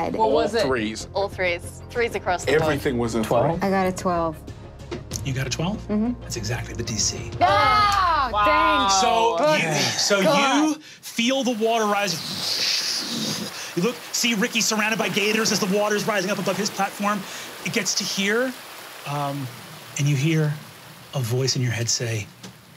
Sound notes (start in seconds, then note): 7.4 exclaims; 12.1 blowing air